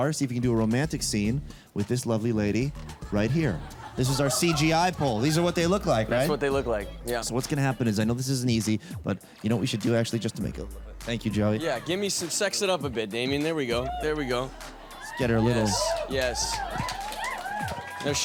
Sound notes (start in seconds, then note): 15.9 audience cheer